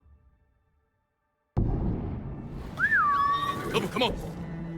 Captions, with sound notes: (suspenseful music) (whistling) - Double, come on.